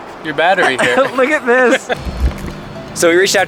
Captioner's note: laughs